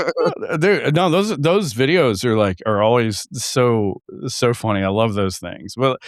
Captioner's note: laughing